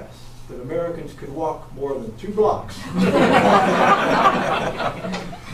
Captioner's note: laughter from all